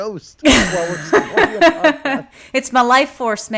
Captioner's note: laughs